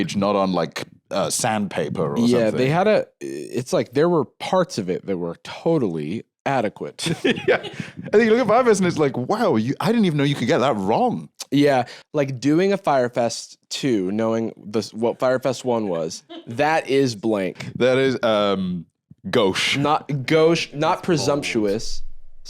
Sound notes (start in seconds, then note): 7.0 laughing